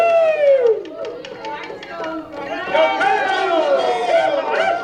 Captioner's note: shouting